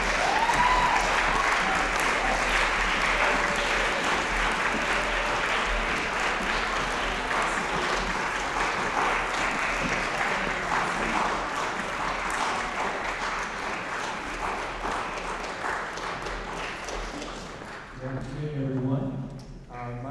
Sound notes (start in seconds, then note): 0.3 applause, cheering; 6.1 applause